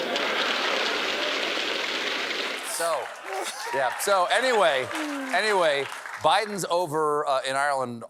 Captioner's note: applause